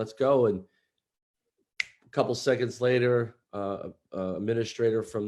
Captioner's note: snaps fingers